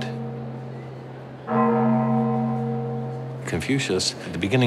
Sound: gong bellowing

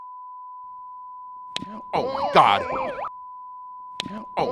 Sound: slapping

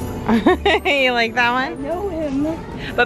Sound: laughs

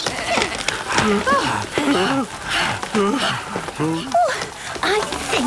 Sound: barking, squeaking, bleating; all groaning and panting

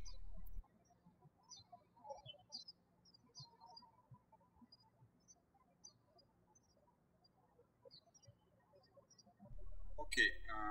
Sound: birds chirping

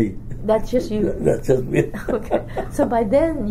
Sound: laughs

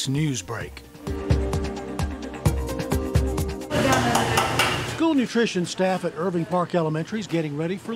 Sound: sound of spoon hitting pan

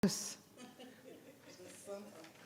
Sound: chuckling

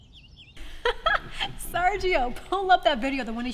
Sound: laughs

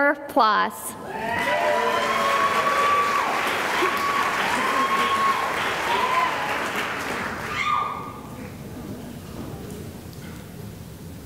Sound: cheering and applause

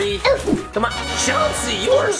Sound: sound of winning

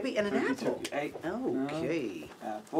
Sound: slaps hand

